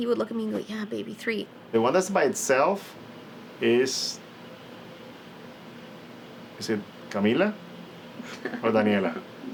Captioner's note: laughs